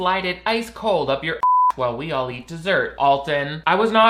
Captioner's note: beep